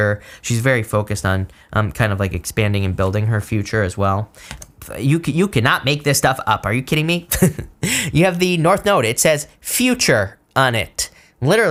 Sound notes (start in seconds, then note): 7.6 laughs